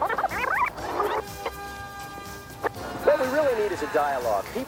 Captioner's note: video rewinding